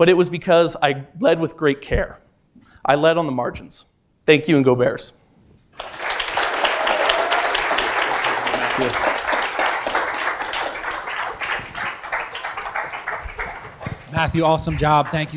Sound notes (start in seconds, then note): 5.6 applause